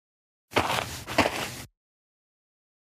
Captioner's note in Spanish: FX - Footsteps - On Multiple Dirt - Walk